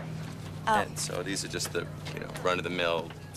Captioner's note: birds chirping